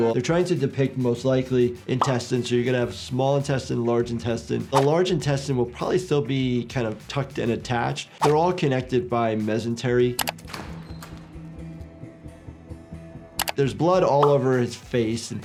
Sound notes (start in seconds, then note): 10.1 mouse clicking; 10.2 door creaking; 11.7 low tense music